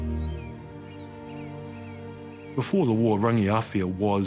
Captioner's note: birds singing